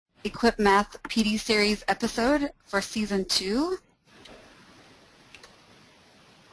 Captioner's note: voiceover